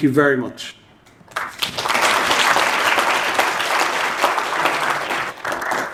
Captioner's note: audience applauding